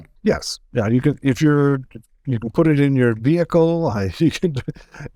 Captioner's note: laughs